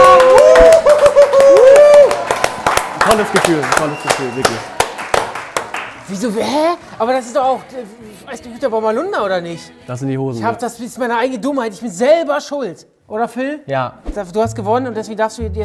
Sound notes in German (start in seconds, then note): 2.9 Jubel, Applaus